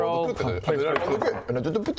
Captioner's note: magic users noises